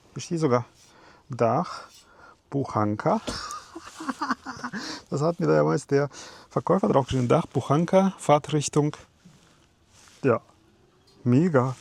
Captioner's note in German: gelächter